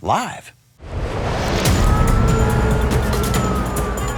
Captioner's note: city bustling